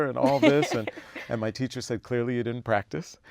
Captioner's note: laugh